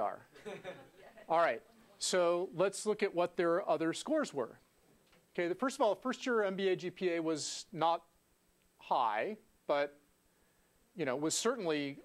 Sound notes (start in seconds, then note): 0.4 laugh